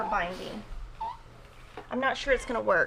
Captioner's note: press whining